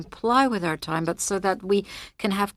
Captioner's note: speaking French